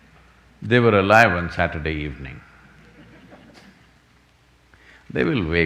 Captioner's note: few laugh